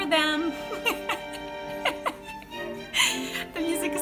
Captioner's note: giggles